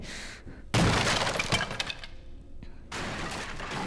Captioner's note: item crashes